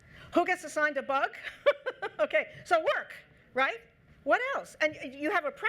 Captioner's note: laughs